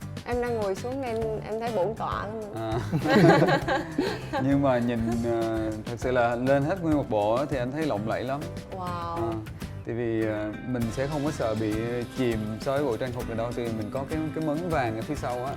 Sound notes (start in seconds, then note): 2.9 hahahaha